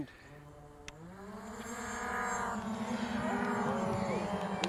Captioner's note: blades buzzing; crowd cheering